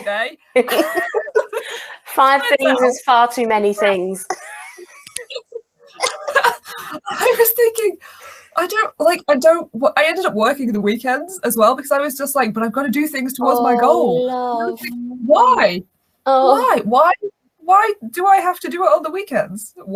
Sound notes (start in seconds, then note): 0.6 laugh; 4.0 laughs